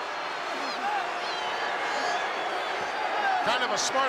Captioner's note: crowd boos